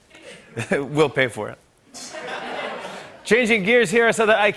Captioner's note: laughter